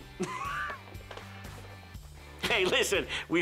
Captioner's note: laughs